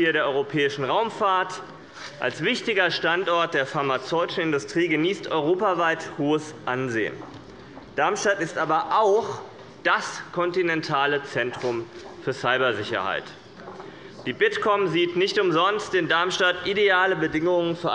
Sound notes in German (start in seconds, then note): none